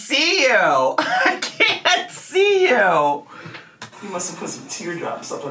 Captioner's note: laughs